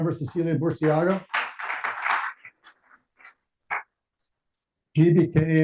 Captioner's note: audience applauding